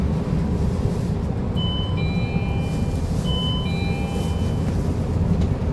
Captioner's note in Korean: 하차벨 소리